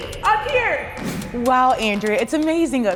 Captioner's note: graphics whooshing